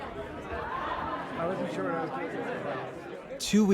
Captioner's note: crowd noises